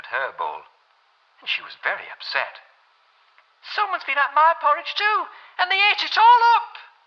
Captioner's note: Jane Bear voice